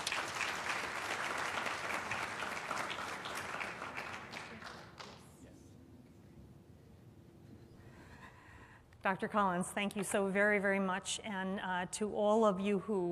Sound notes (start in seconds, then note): 1.7 applause